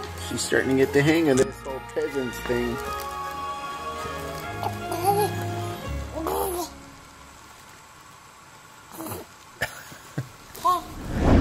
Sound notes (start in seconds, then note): 6.1 babbles